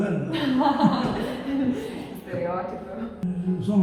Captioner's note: laughing